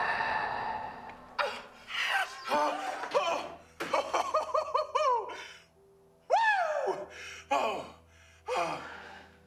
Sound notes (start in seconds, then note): 0.0 all gasping; 3.9 Mark laughing; 7.8 breathes heavily